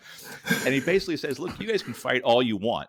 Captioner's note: laughs